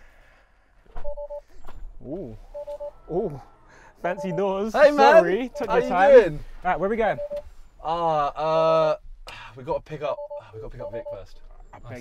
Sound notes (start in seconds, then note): 4.0 car beeps